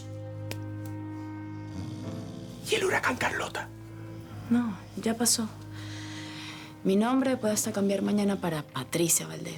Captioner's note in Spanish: Susurra